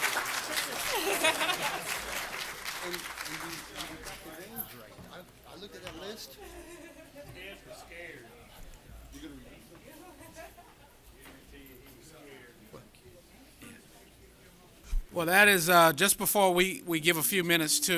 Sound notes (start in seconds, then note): 2.8 applause